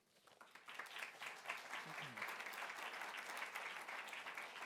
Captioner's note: audience applauding